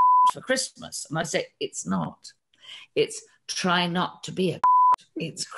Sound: beep; beep

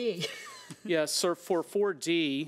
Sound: laughs

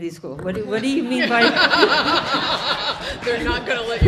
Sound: all laughing

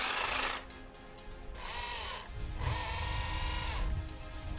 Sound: motor whirring

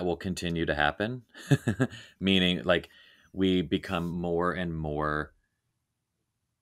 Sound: laughing

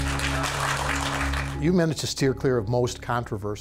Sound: audience applause

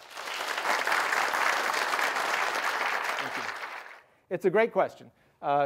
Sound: applause

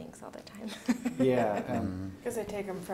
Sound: laughs

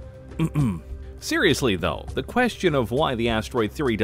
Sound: ahem

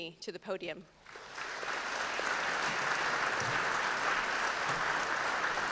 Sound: audience clapping

